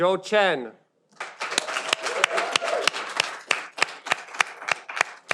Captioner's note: audience applauding